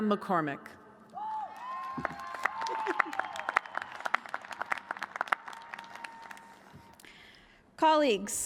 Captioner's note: applause